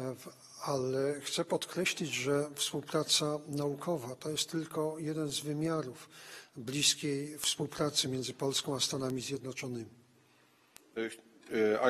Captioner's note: speaking polish